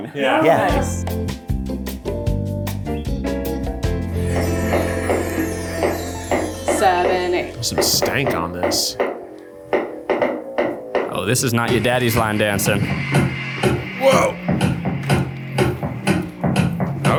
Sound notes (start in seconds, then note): 0.4 upbeat music; 6.2 footsteps tapping; 14.9 upbeat tempo music